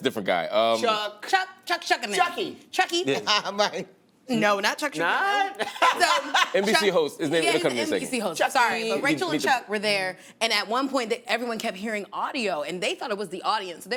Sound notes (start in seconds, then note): 5.3 laughs